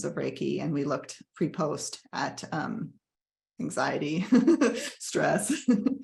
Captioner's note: laughs